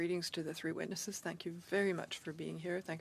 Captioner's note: speaking in French